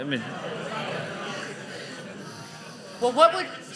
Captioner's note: audience chattering